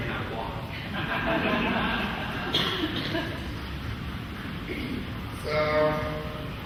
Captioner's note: laughing